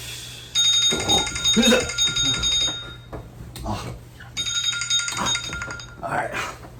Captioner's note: alarm clock ringing